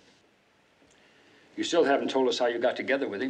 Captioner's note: none